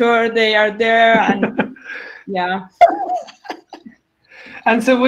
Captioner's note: laughs